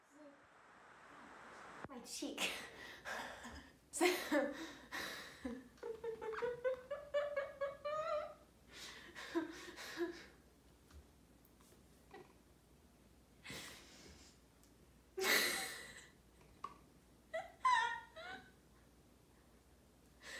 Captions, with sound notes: I just bit my cheek! *Nonsensical laughter*